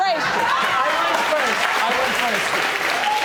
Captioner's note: audience applauding